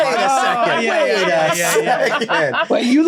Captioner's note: all laughing